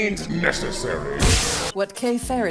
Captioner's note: pew